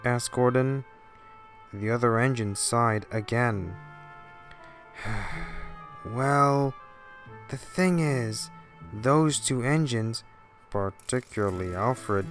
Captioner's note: sigh